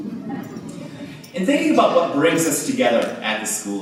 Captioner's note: laughter